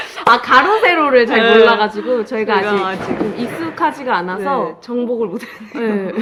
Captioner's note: something drops in the background